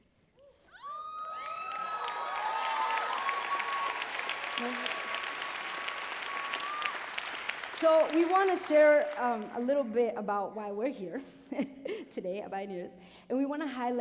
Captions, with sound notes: -[cheering] -So we want to share a little bit about why we're here, today, at Bioneers,